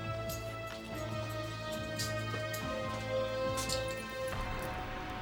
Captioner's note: suspenseful music; footsteps tapping